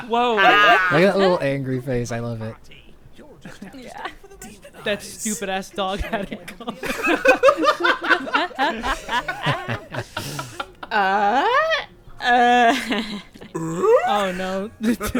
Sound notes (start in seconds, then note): 7.0 laughs; 7.5 group laughing